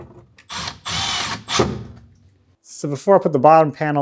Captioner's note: drill whirring